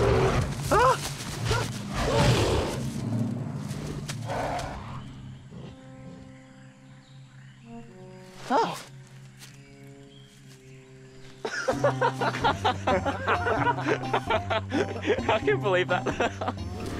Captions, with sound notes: [gorilla roars] -Ah! -[gorilla roars] [Sam and Kingston laugh] I believe that.